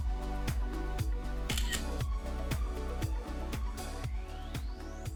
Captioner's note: camera shutter clicking